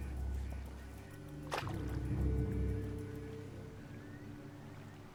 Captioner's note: water splashes